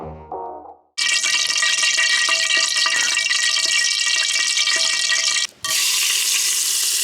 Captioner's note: oil heating